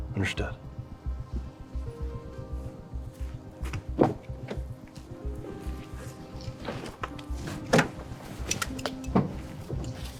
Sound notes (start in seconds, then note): 4.4 door clicks; 5.5 bag rustling